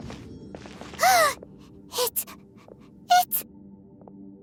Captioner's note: gasp